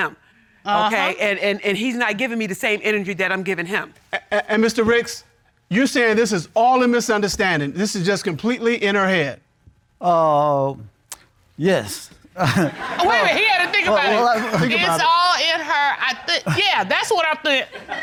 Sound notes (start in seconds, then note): 12.3 chuckles